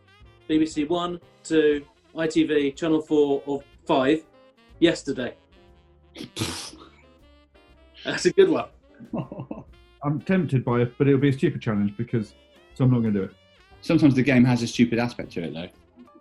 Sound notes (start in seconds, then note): 6.2 splutters; 9.0 chuckling